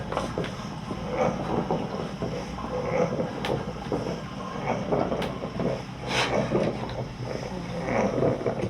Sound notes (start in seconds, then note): 0.8 grunting, Wheezing; 6.1 crying